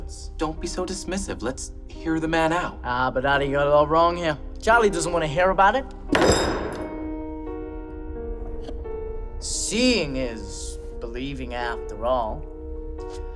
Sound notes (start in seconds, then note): 6.1 slam